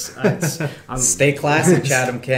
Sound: laughing

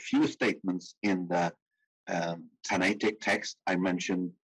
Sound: speaking in foreign language

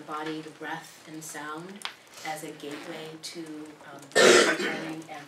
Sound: cough

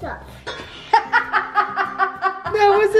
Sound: laughing

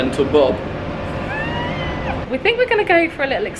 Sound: squeals excitedly

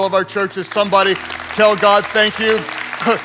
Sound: congregants applauding

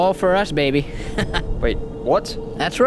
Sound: chuckling

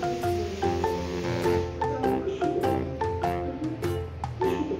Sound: laughs

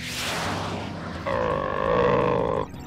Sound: growling

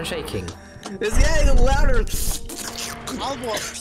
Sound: slurps

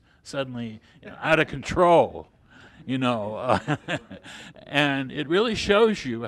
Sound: laughs

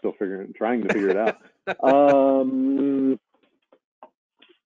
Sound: laughing

